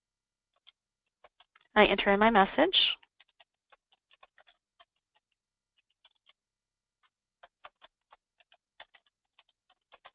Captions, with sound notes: I enter in my message. (computer keyboard keys tapping)